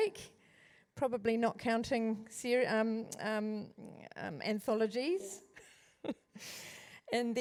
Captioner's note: laughs